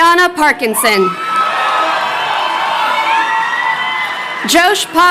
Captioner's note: crowd cheering